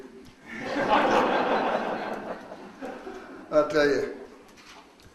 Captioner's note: audience laughs